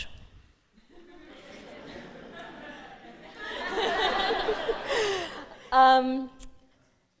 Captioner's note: laughter